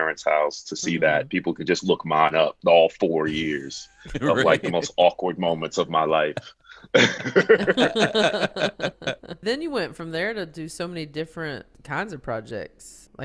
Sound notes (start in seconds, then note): 6.9 all laughing